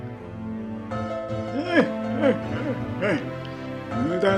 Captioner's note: laughing